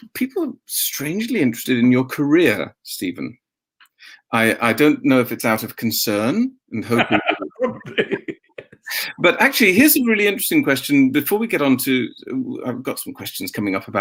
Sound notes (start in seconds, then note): 6.8 laughs